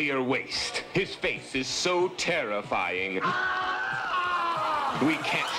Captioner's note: screams